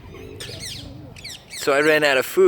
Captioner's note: parrot squawking